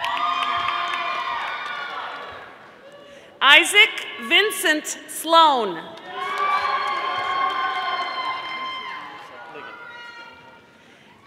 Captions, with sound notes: (audience applauding) Isaac Vincent Sloan, (audience applauding)